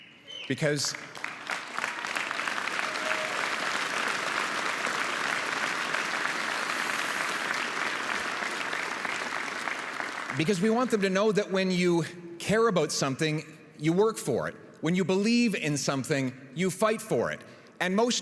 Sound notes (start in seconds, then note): 4.6 applause